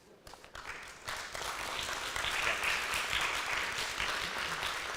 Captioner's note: audience applauds